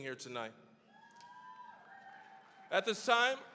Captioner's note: cheering, applause